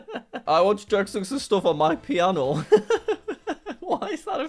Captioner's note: laughs; laughs